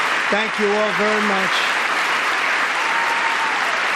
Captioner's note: applause